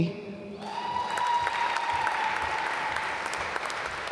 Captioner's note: applause